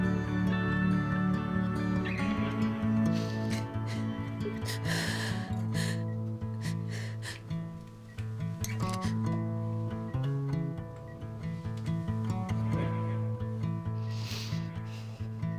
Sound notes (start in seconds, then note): 3.0 Ashley sobbing; 8.5 pleasant, flowing guitar